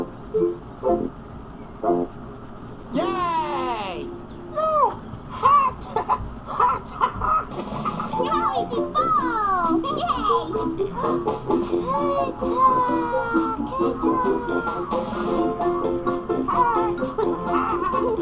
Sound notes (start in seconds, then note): 5.8 laughs